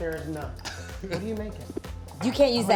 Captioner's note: laughing